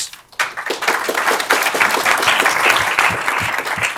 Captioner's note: applause